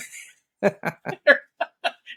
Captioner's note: laughing